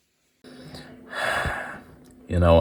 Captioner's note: le sigh